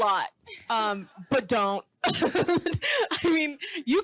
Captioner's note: laughing